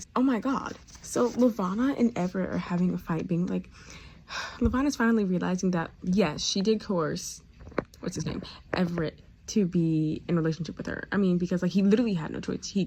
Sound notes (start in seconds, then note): 4.3 sigh